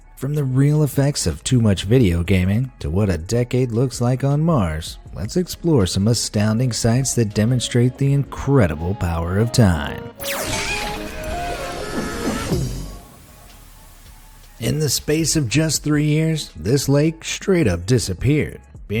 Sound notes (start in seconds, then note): 10.2 upbeat lively music; 11.6 creature thuds